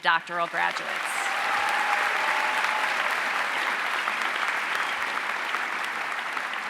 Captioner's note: audience cheering and applauding